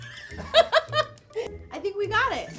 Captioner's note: laughing